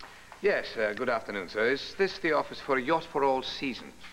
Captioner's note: english accent